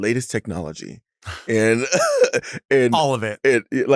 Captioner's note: laughs